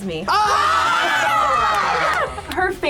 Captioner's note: group yells